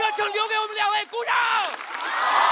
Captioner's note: applause